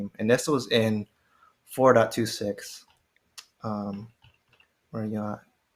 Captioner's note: none